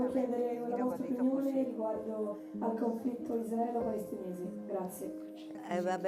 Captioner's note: speaking in foreign language; attendee speaking in foreign language